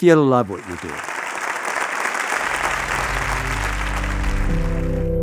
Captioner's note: Applause